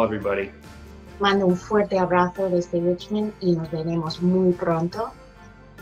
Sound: speaks in foreign language

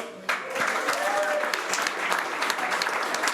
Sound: applause

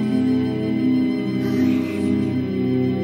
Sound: sighs

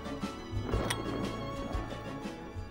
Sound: gunshot

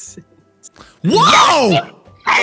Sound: weird voice

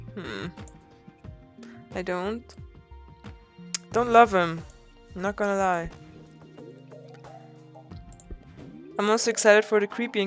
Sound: clicks tongue

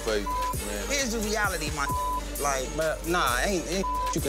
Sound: beep; beep

